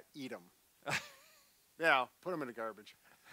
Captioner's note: laughs